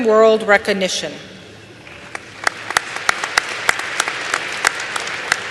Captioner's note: applause